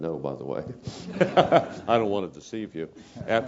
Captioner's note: laugh